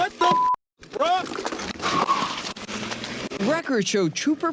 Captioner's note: engine roaring